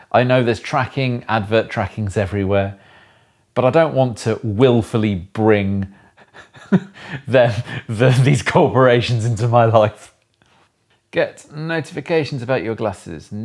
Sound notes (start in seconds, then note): 6.2 laughing